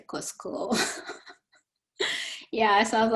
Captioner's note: chuckling